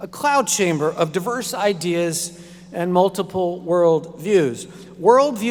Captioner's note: none